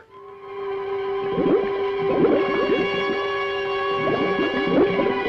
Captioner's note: suspenseful orchestral music; bubbles gurgling